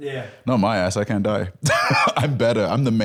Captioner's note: laughs